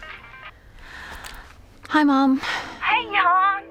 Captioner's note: cell phone rings; sighs